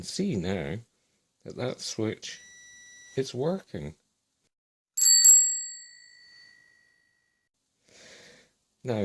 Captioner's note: bell ring